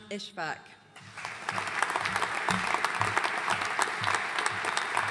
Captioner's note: audience applauding